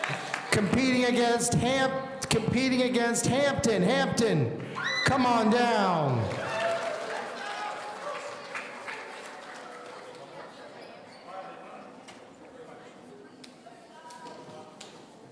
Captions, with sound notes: Competing against Hampton. Hampton, come on down. (audience cheering) (people in the audience conversing)